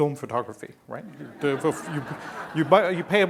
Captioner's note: laughing